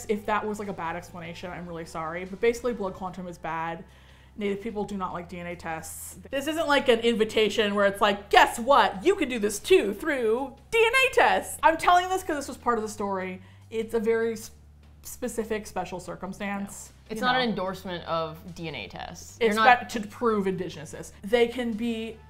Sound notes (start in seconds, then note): 7.8 cheerfully